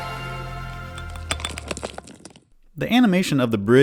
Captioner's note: intro music; rock noises